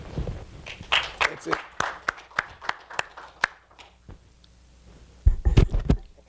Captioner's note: attendees applauding